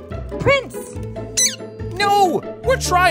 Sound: chirping

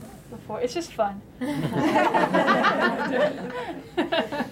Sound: laughter

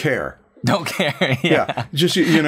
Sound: laughter

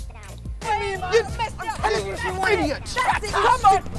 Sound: arguing

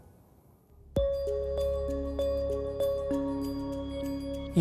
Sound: soft chimes

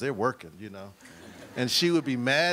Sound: audience laughs

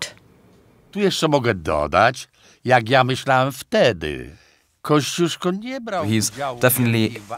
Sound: polish being spoken

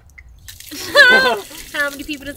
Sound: both laughing

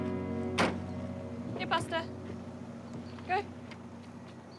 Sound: car door shuts

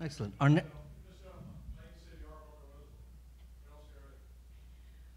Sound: man speaks off mic

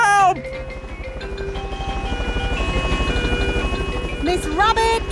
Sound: emergency siren sounding

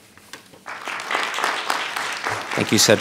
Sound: audience applauding

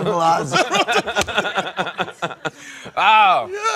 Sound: laughter; laughing

